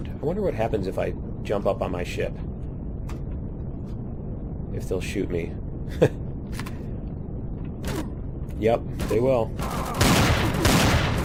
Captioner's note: laughs